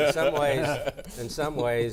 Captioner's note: laughter